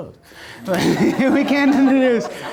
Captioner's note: laughing